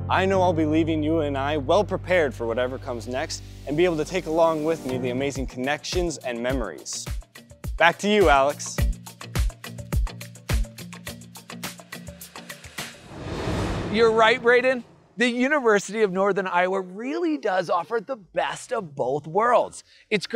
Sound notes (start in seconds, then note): 7.7 bright music; 12.8 graphics whooshing